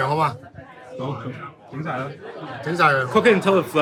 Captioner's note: speaking in foreign language; owner speaking in foreign language